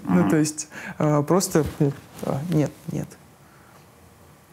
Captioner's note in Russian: звуки отвращения